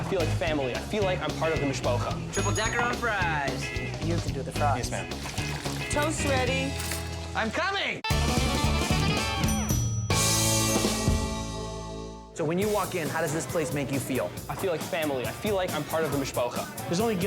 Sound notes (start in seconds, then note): 2.3 bell dings; 7.3 upbeat music; 9.4 bell dings